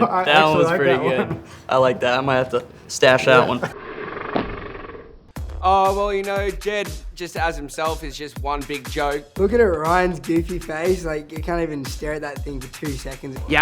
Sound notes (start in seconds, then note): 3.8 laughs in slow motion